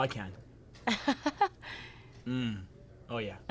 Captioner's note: laughing